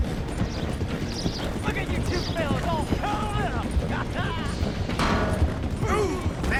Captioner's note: laughs and gets knocked out by the exhaustion of a water tank